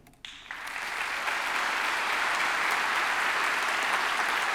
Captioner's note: audience clapping